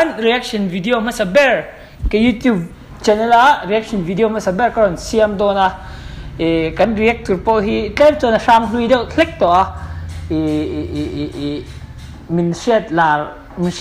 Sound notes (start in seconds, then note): 9.8 stutters